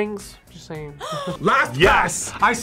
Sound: React gasps

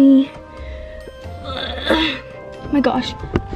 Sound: grunts

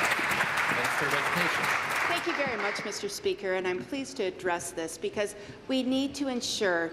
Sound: applause

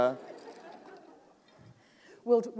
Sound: laughter

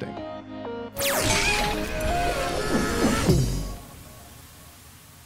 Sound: image whirring; gentle pulsating music

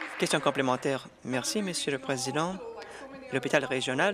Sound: applause

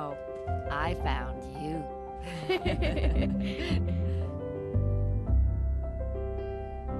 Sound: laughing

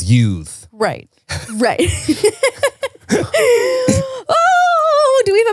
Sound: laughs

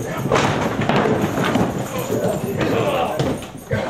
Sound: table shatters; men grunt

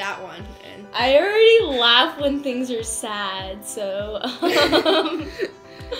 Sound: laughs

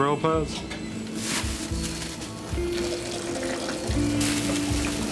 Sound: water splashing

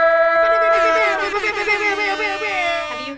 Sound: imitates air horns; air horns blasting

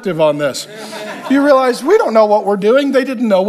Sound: congregation laughs

